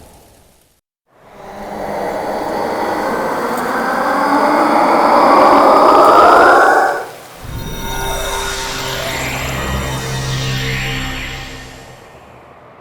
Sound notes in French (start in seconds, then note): 1.5 cri de Miz'Kyosia; 7.4 bruit de rapetissement